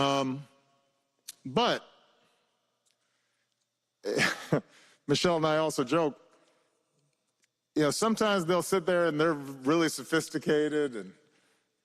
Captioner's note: laughter